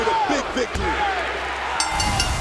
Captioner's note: bell ringing